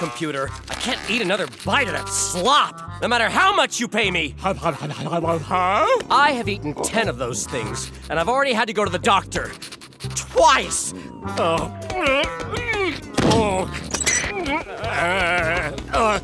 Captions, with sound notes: I can't eat another bite of that slop, no matter how much you pay me. [stuttering] I have eaten ten of those things, and I've already had to go to the doctor... Twice. [groaning] [groaning]